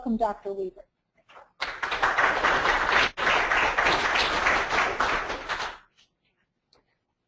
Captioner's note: applause